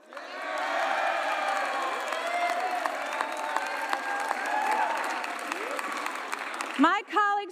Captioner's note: cheers